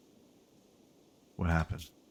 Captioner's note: silence